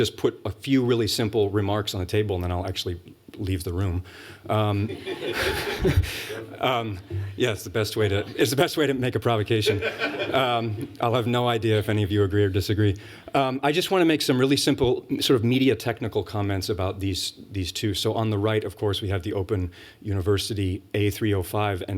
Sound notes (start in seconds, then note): 4.8 laughter